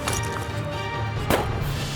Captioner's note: gun shot